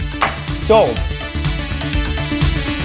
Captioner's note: gavel bangs; upbeat futuristic music